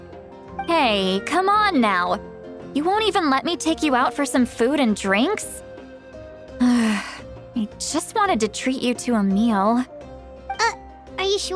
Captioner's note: sigh